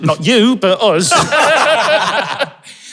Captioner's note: group laughing